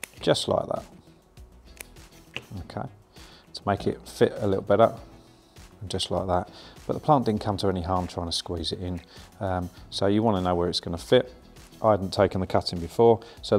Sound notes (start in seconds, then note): 1.7 scissors snipping